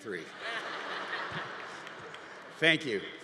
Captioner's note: congregation laughing